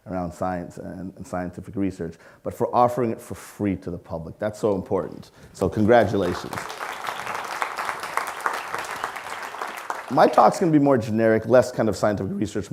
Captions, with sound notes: around science and scientific research, but for offering it for free to the public. That's so important, so congratulations. (audience clapping) My talk is gonna be more generic, less kind of scientific research,